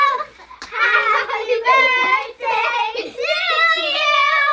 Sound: laughs

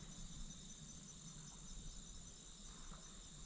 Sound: nature sounds

